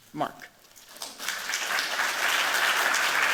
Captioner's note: applause